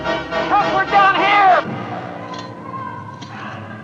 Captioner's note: muffled Yelling